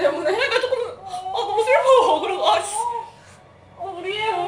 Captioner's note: crying